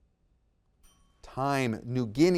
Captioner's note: timer chimes